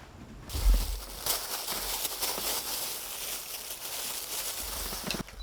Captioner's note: rumbling stomach